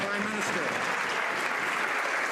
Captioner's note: some Applause